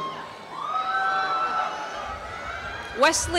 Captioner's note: applause and cheering